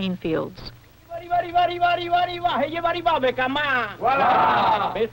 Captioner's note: chanting